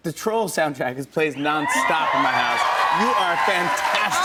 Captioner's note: cheers and applause